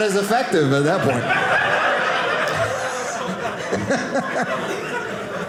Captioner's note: audience laughing